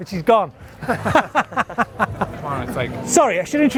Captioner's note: laughs